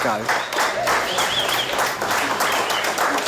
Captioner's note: crew whistling & applauding